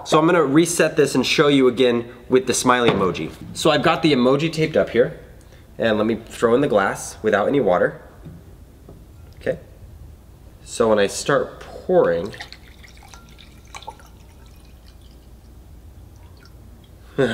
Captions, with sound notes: So I'm going to reset this and show you again with the smiley emoji. So I've got the emoji taped up here, and let me throw in the glass without any water. So when I start pouring, (water pouring)